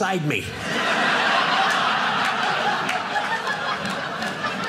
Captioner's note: audience laughing